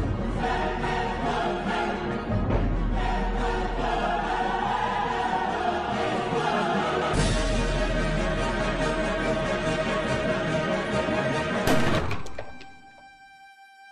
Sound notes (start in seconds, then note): 11.6 gunshot